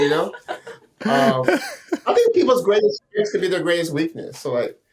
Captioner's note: all laughing